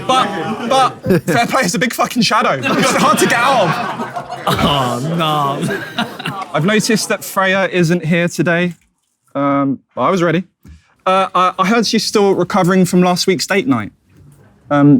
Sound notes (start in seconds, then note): 2.5 audience laughs; 6.1 chuckles